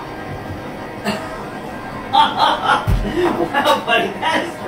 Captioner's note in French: rires